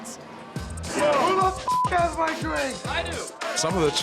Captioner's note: beep